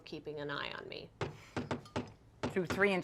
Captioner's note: loud knocking